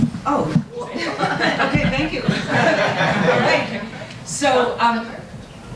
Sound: audience laughs

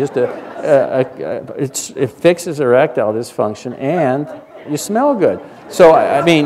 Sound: laughter

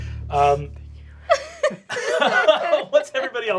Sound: giggling

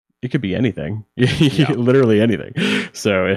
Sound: chuckles

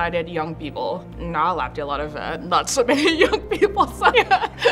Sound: laughs

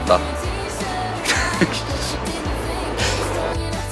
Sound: laughs

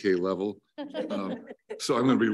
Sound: all laugh

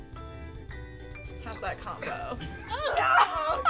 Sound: gagging

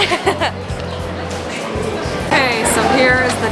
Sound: laughs

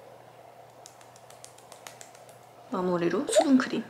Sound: pat pat pat

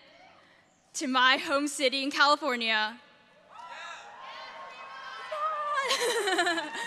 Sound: audience members cheering

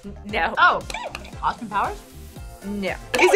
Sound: buzzer squeaks; buzzer squeaks

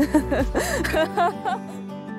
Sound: laugh

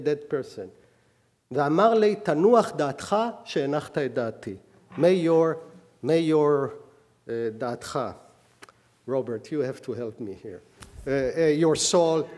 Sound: speaking hebrew

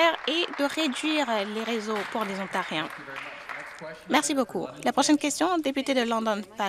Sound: some Applause

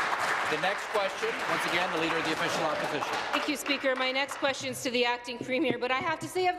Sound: applause

